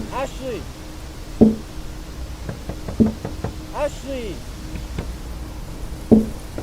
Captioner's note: tapping continues